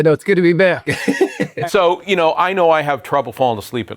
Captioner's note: laughs